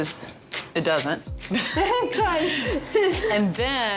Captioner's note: laughs